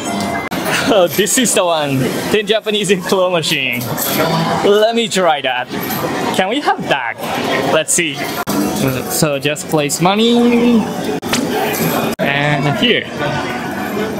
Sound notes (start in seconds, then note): 11.2 sound effect